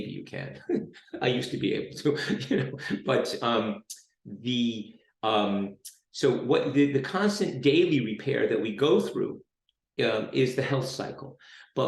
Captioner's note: laughs